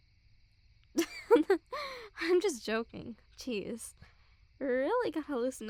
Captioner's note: soft laugh